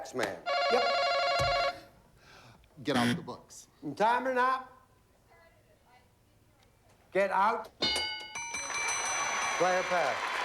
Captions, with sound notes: YUP? GET OUT THE BOOKS. [BUZZER] IN TIME OR NOT? GET OUT. [APPLAUSE] PLAY OR PASS?